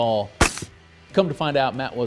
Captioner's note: gunshot